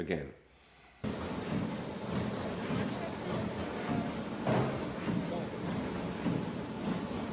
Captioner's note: machine humming; people talking